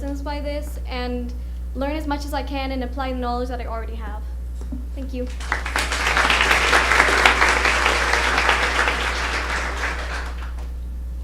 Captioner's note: applause